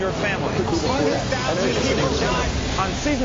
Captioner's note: people chattering